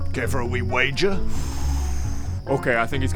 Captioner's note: excited gambler noises